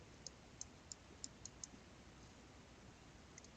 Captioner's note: mouse clicking